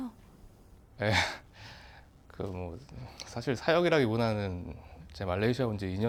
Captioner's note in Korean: 한숨